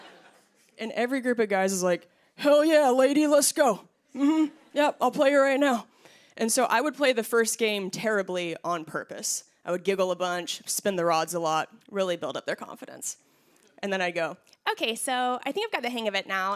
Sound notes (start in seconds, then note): 0.5 normal voice